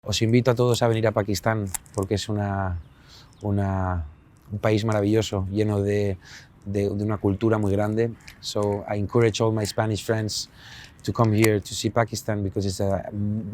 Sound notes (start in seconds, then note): 0.0 Spanish